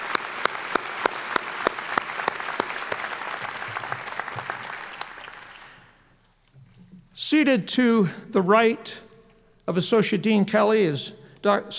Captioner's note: applause